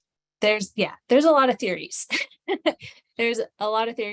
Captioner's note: chuckles